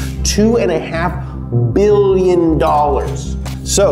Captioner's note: echoing